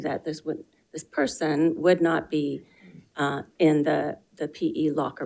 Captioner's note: none